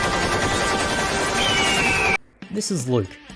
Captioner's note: bald Eagle Screech